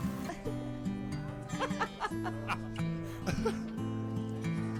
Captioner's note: people laughing